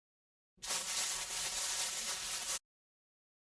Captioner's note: static